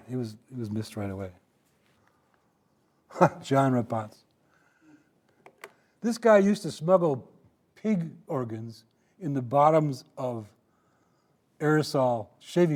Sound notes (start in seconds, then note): 3.2 chuckling